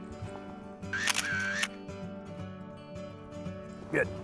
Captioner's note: camera shutter clicks